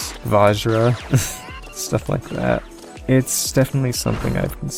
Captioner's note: awkard laugh